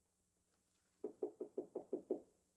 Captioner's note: knocking on door